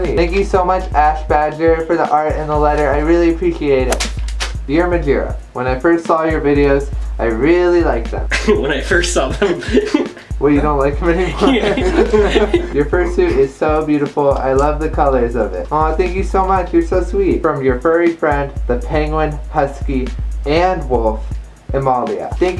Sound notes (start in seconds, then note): 9.3 offscreen, laughing; 11.2 trails into laughter